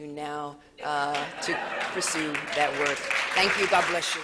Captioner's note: laughter